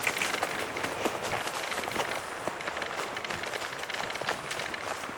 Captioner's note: footsteps crunching